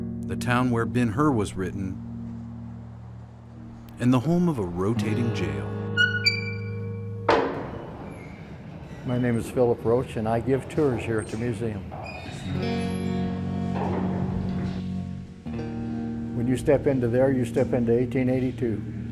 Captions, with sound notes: The town where "Ben Hur" was written and the home of a rotating jail. (door squeaks) (door slams) - My name is Philip Roach and I give tours here at the museum. When you step into there, you step into 1882.